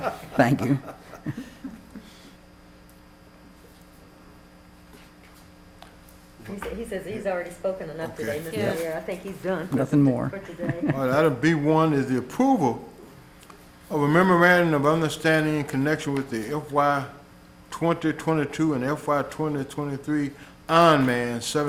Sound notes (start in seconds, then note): 4.1 laughter